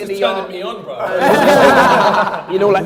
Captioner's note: laughter